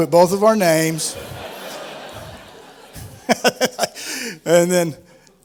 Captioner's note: laughter